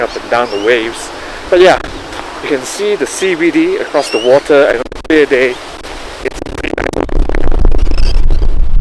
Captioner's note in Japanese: 強風の雑音